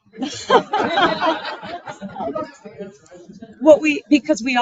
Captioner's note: audience laughing